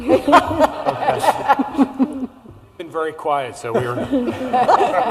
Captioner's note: laughter